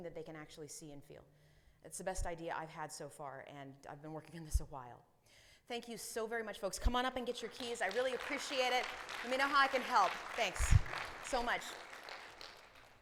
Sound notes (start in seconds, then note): 7.2 audience applauding